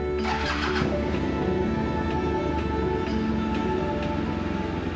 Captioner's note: engine revving